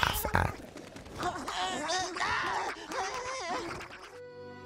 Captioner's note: Sokka grunts and shouts